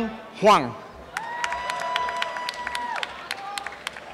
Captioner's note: applause and cheering